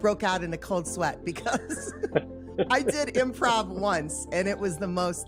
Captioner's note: laughs